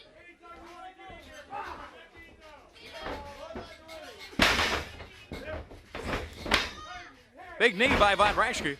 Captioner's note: crowd chatter